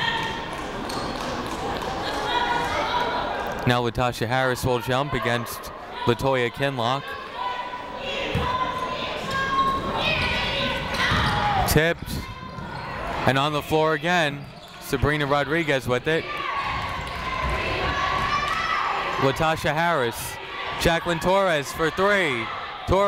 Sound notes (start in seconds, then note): 1.0 people cheering in the crowd; 9.2 people shouting in the crowd; 16.2 people cheering in the crowd